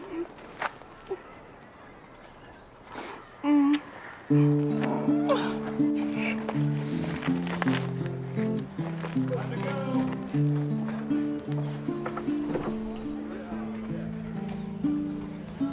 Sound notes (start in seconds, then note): 3.6 smooching; 10.4 plaintive music